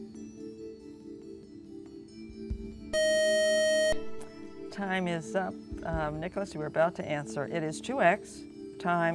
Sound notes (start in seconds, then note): 2.9 buzzer